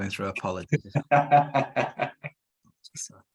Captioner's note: laughter